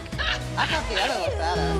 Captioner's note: laughs